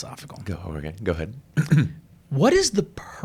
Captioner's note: clears throat